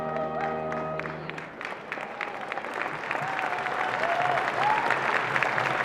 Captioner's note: applause and cheering